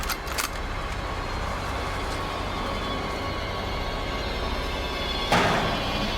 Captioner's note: gun clicking; suspenseful music